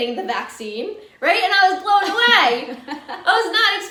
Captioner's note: laughs